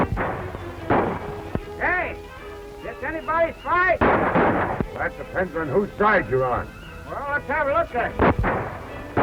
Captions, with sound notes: Hey! This anybody's fight? [gunshots] That depends on whose side you're on. Well, let's have a look at it. [gunshots]